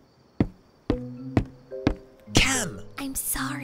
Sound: footsteps clomping

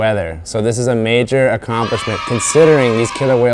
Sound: children screaming

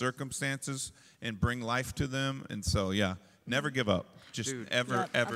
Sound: applause

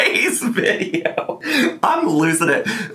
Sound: laughing

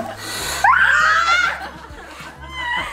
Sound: screaming; laughing

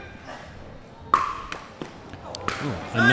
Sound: ball bouncing

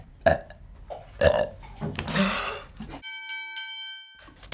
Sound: burps; bell dings

